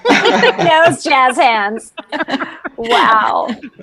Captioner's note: all laughing